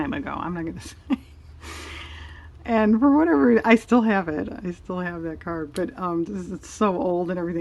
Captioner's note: laughs